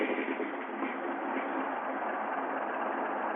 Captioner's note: truck rattling